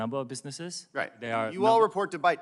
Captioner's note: speaking non-english